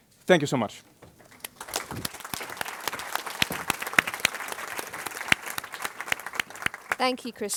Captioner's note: applause